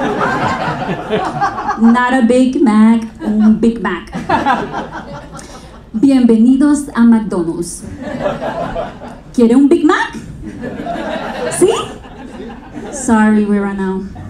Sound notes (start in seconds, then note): 0.0 audience laughing; 4.0 audience laughing; 5.9 speaking a foreign language